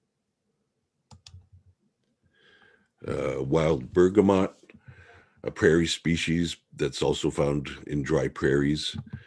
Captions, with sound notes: (mouse clicking) Wild bergamot, a prairie species that's also found in dry prairies,